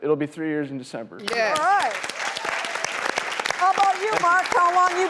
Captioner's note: audience claps